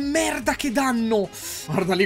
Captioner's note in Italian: "ffff" inspirando